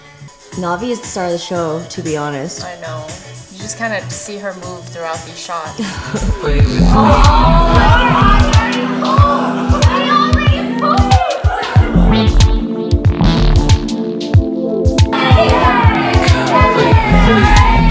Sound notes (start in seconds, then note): 6.5 yelling; 8.9 bouncy music; 15.2 cheering